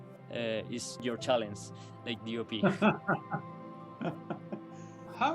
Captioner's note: laughter